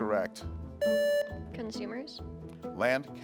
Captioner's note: buzzer beeps